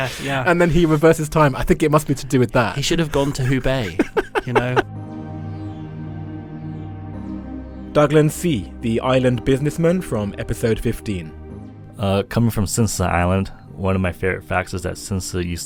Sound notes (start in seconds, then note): 6.2 voiceover